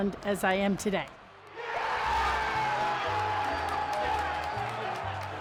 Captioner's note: crowd cheers